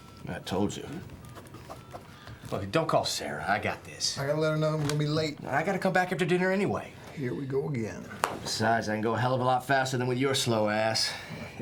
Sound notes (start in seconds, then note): 1.0 phone dials beeping; 8.3 cell phone thuds shut